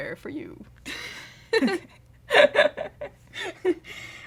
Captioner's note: laughter